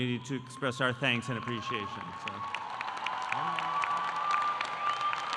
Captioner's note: audience applauding